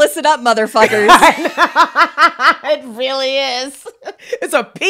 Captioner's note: laughs